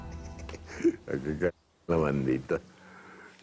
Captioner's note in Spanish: Risas